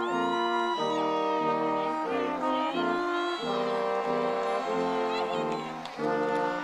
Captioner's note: audience cheering